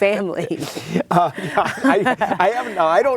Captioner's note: laughing